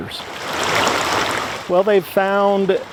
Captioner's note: splashing